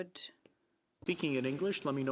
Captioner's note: speaking French